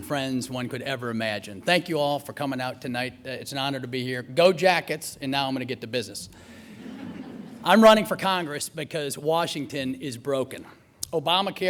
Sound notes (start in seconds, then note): 6.6 laughter